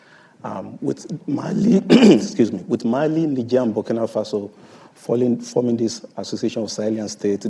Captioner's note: coughs